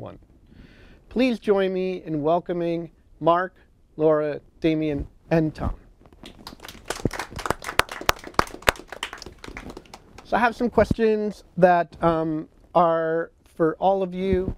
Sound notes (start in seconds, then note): 6.2 applause